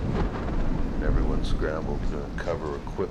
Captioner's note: thunder rumbling